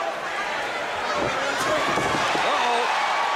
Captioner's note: crowd cheering